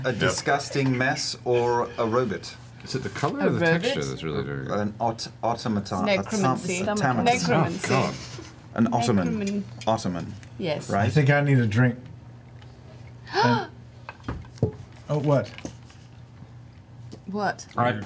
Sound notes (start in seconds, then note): 13.2 gasps